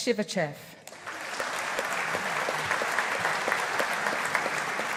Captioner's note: audience applauding